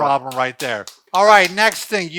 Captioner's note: hand slapping